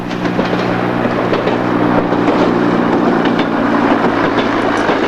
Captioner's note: sound of train running over tracks